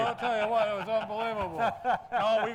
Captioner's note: laughs